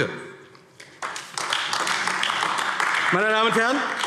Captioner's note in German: Beifall AfD